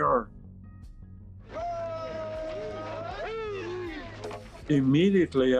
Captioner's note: cheering